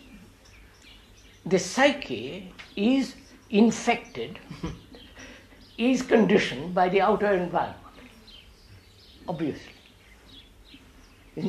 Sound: laughs

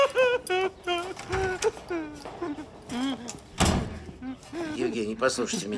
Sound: cries and whines

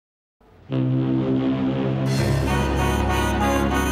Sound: foghorn

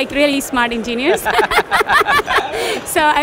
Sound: laughs

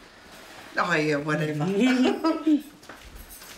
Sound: chuckles

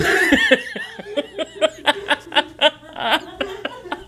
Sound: laughing

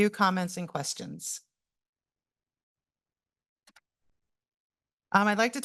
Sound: pause

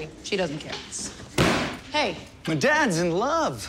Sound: thuds

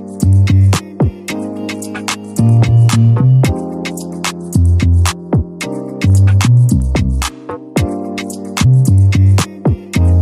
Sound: the heartbeat sound

